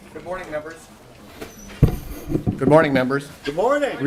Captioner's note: gavel